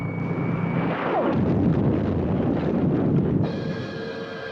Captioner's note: explosion booms; dramatic music